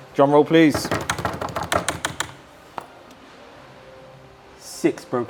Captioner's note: hands thudding